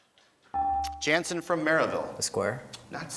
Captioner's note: beeping